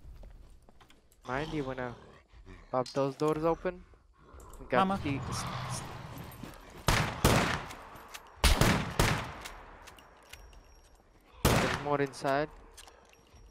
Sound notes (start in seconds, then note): 6.8 gunshots